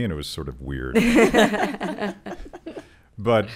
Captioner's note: laughing